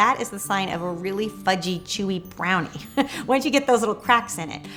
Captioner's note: laughs